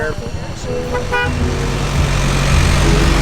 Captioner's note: car honking